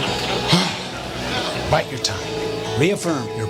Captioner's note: sighs